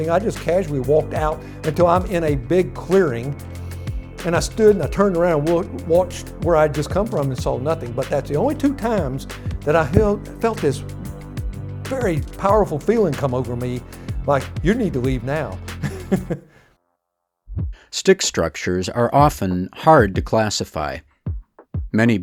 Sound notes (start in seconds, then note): 15.8 laughing